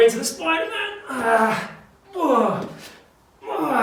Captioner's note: groans